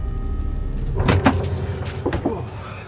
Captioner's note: door opening